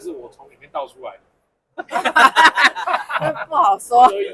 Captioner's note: laughter